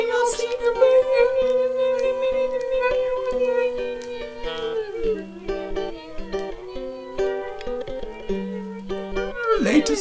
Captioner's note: squeaky voices